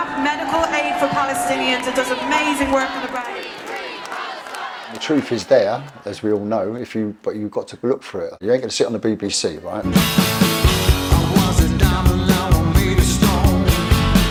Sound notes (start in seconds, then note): 3.4 crowd chanting